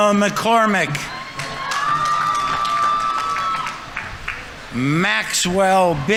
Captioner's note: audience members cheering; audience applauding